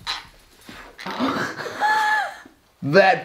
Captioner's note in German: Mutter und Interviewer lachen